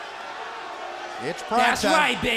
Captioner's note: crowd cheering